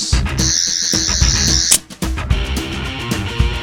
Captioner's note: Sonic Screwdriver Noise